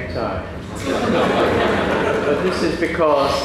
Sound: laughter

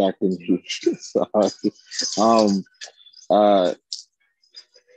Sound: chuckling

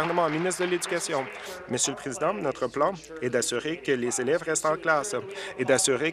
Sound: applause

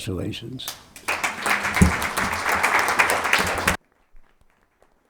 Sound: attendees applauding

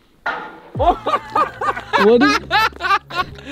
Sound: metal clangs; laughs

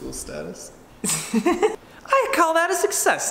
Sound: laughs

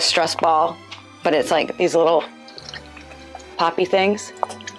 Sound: popping noises

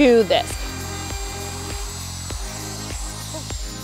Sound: whirring

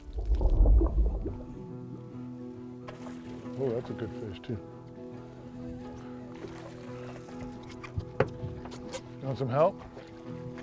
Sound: splashing

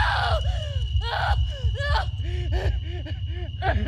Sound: screams; cries

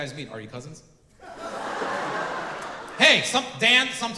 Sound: audience laughing

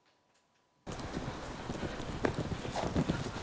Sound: quick, unsteady breathing

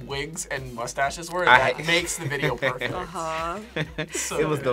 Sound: chuckles

